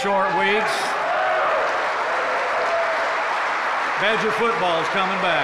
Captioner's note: applause